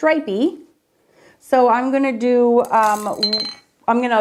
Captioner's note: brush clanking